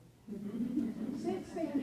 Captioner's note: laughing